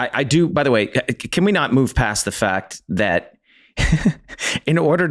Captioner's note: giggles